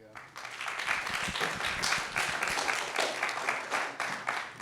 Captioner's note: applause